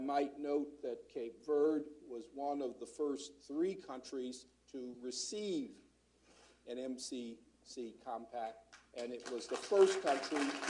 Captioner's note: applause